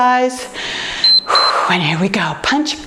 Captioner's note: timer beeps